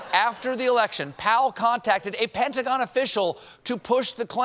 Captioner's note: laughter